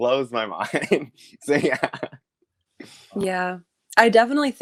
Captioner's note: laughs